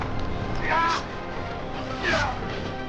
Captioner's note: grunting